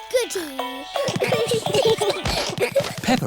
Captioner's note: all giggling